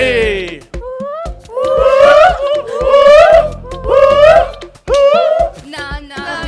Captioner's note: whooping